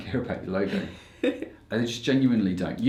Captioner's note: laughs